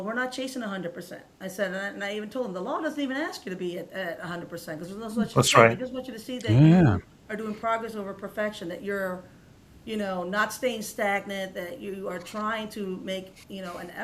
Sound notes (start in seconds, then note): none